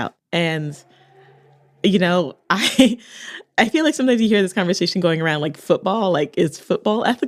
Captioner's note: laughs